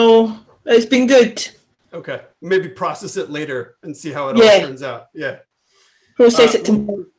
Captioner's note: laughter